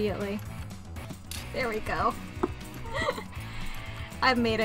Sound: giggles

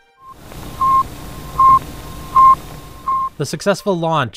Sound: beeping

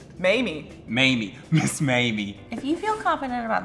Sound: laughs

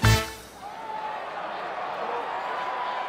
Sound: crowd cheering

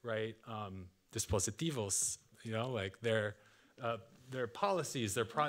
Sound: speaking Spanish

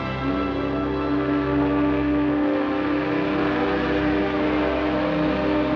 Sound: whistle blowing

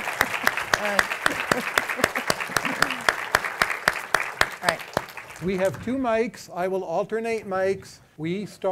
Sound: applause; laughs

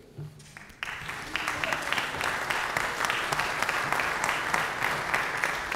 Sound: applause

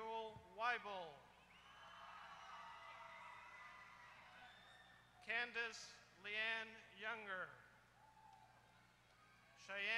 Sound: applause

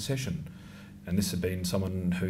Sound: none

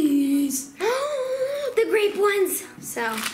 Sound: gasps

